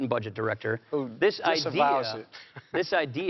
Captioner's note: chuckles